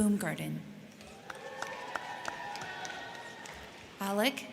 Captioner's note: crowd cheering; crowd clapping